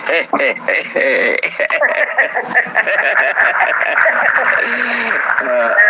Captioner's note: laughs